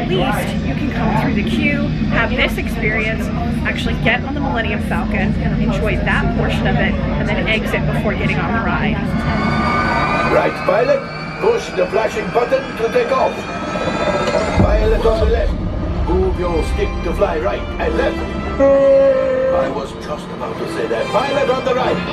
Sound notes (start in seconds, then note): 14.6 engine sound effects